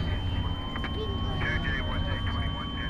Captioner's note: police sirens blaring